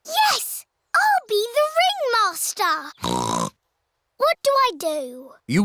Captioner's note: snorts